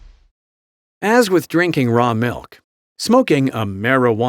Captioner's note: voiceover